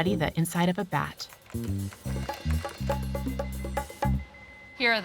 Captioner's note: typing; scanner beeping